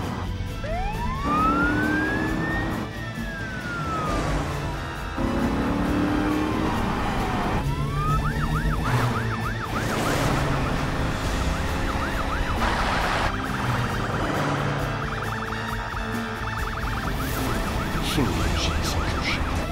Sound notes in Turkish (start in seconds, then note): 0.1 Polis siren sesi